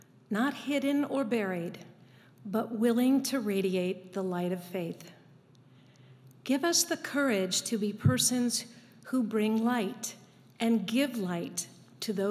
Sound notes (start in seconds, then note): none